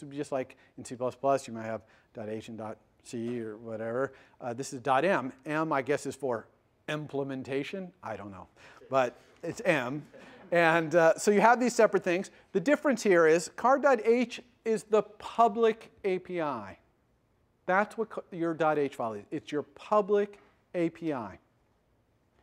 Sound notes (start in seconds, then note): 10.0 laughter